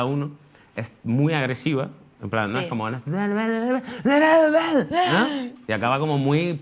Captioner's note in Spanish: canturrea gritando